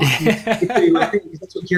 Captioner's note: laughs